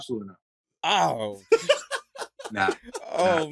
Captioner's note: laughter